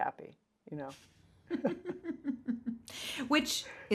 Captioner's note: laughs